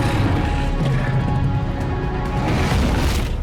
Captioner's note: dinosaurs roaring